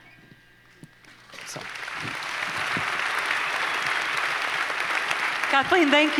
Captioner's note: audience applauds